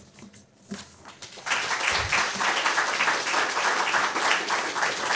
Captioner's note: applause